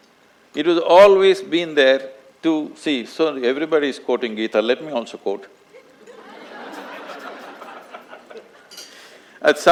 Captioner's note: laughter